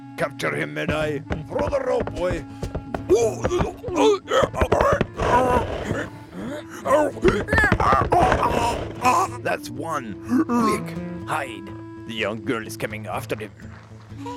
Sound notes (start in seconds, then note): 3.2 חמור נוהם וצועק